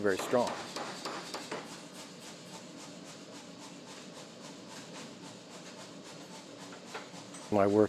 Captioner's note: machinery whirs